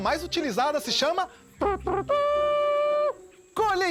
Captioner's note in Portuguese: Imita corneta com a boca